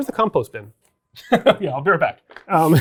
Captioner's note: chuckles